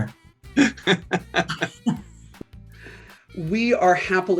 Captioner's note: all laughing